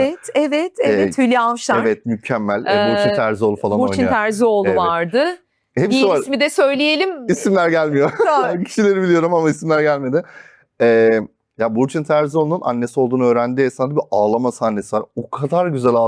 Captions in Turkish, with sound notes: Evet evet evet. Hülyş. Evet. Evet. Mükemmel. Boşin Terzoğlu falan oyn. Boşin Terzioğlu vardı. Y ismi de söyleyelim. İsimler [kahkaha] gelmiyor. Tamam. kişileri biliyorum ama isimler gelmedi. Eee, ya Burçun Terzoğlu'nun annesi olduğunu öğrendiği esnada bir ağlama sahnesi var. O kadar güzel